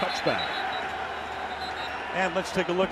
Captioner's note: whistle blowing